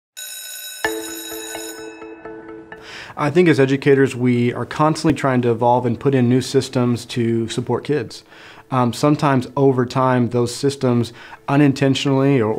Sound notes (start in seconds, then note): 0.1 school bell rings